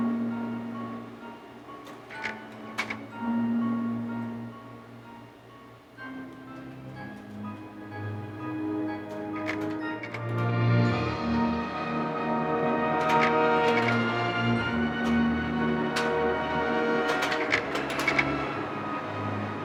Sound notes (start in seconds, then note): 10.0 dramatic music; 12.0 projector clicking